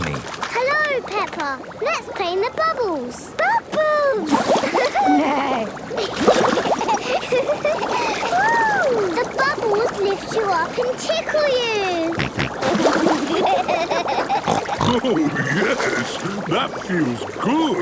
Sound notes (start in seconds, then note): 4.9 giggling, neighing; 6.7 giggling; 11.7 snorting, giggling